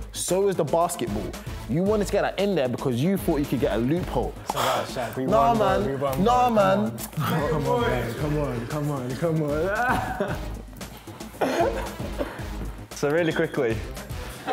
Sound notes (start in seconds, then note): 4.4 sighs; 14.2 laughter